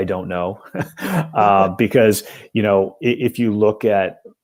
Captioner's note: laughter